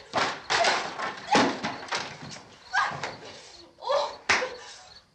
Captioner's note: shouts